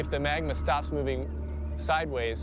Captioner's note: none